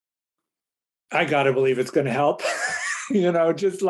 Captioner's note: chuckles